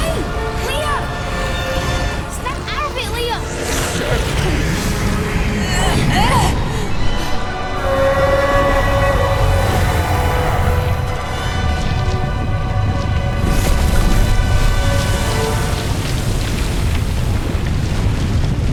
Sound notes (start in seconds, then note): 5.6 grunts; 7.8 screams